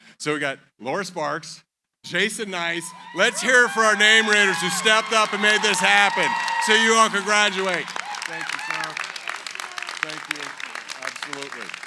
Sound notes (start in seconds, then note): 3.2 cheering